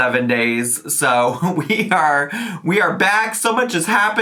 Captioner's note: chuckles